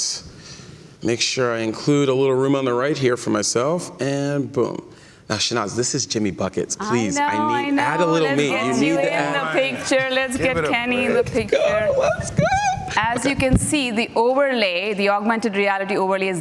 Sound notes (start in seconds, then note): 7.7 laughter